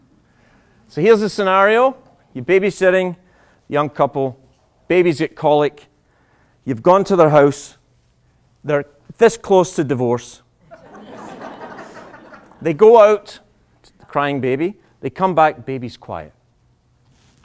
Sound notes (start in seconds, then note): 10.6 laughter